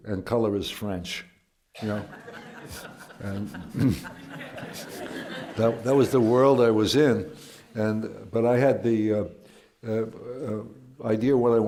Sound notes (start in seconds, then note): 1.8 laughter